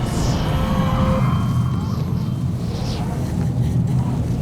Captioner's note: distant voice wailing; wind rushing